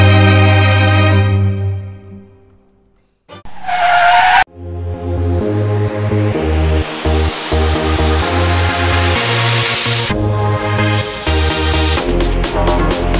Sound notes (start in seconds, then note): 3.4 car tire screech sound; 5.7 dance music plays